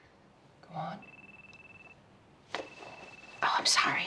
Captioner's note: phone ringing